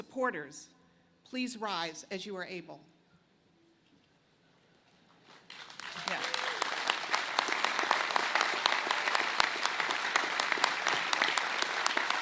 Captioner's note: applause